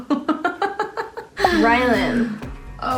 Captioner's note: laughing